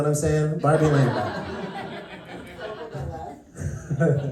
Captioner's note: laughter